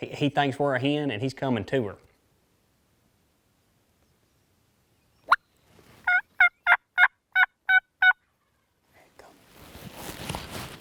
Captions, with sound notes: He thinks we're a hen, and he's coming to her. (imitating turkey gobbling) Here he comes.